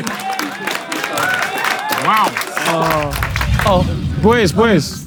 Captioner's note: people in room cheer